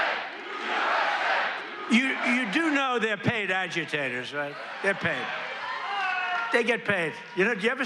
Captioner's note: crowd chanting "usa"